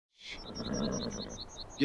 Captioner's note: horse snorts